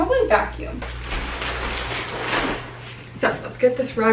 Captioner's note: plastic crackling